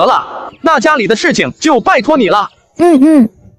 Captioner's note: sobs